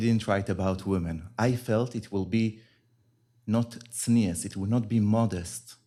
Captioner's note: hebrew